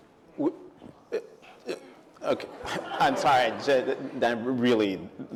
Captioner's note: stammers